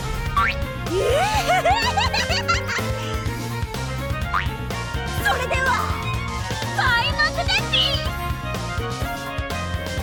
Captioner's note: giggle